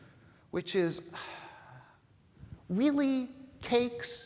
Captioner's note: sighing